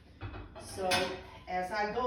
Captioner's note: plates clanging